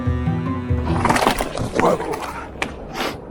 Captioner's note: bike fumbling